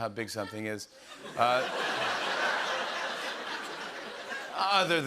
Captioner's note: laughter